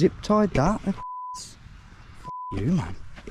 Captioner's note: beeps